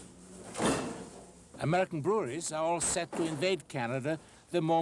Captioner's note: bottles clinking